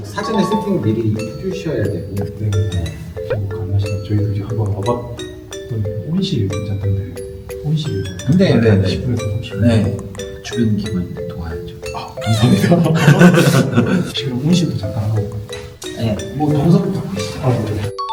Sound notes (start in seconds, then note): 12.2 playful sound effect; 12.4 laughter; 17.9 sound of a ringing bell